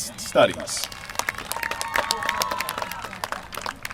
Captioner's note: applause